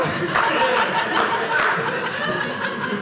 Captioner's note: audience laughing